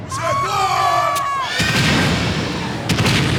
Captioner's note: explosion